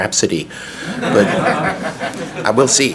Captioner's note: audience laughs